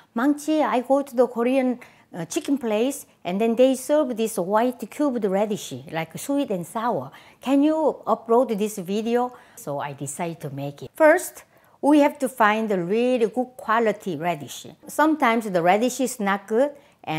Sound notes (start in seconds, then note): none